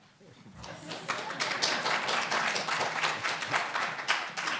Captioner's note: audience applauding